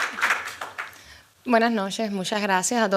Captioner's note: speaking spanish